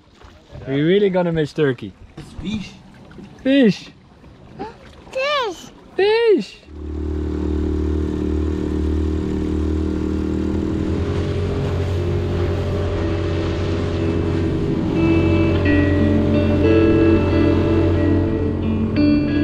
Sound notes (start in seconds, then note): 7.6 dinghy engine roaring; 15.7 tranquil music